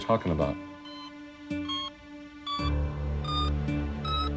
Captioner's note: loud beeping